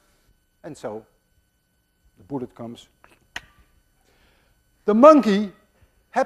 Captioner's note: kisses